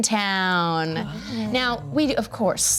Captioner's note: everyone mumbles in amazement